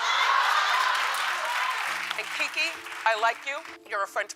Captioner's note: audience applauding